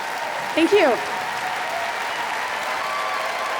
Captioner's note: applause